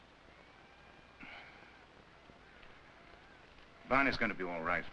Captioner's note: Viet sighs